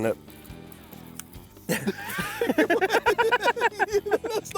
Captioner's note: both laughing